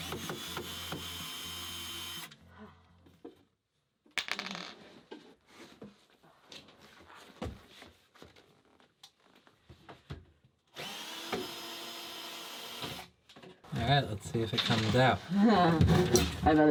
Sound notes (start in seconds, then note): 0.0 drilling; 4.2 clatters; 10.7 drilling; 15.4 chuckles